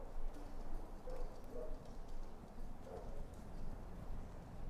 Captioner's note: dog barking in distance